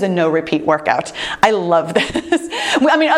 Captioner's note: chuckles